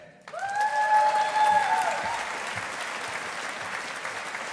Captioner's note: audience applauding